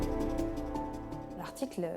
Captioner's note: non-english speech